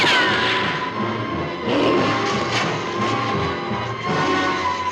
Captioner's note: creature grunts